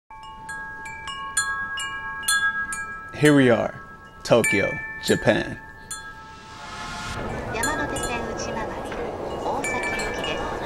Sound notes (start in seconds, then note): 0.0 bells chiming; 6.8 people speaking Japanese